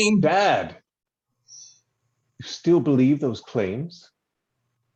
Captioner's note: silence